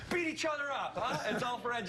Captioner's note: laughter